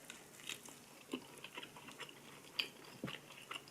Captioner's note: chewing